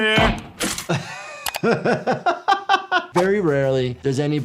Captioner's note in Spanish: riendo